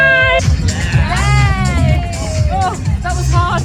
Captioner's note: people exclaim